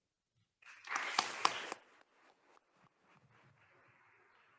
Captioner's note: attendees applauding